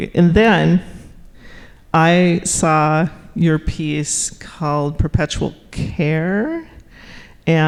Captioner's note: none